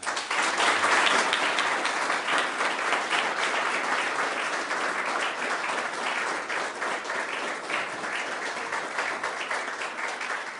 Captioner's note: applause